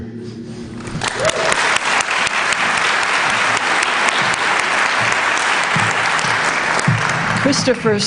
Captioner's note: applause